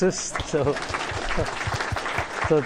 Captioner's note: applause